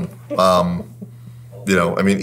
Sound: laughing

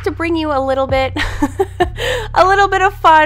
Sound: laughter

